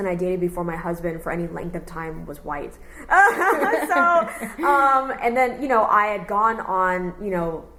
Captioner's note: laughs